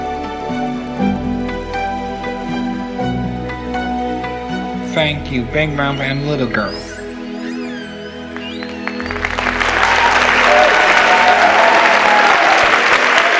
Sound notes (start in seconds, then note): 6.4 whale sounds; 8.4 applause and cheering